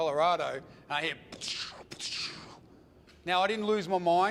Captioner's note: making gun shot sounds